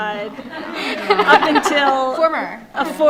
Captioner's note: audience laughs